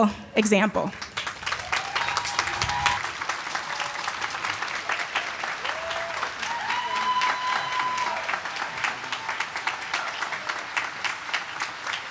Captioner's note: applause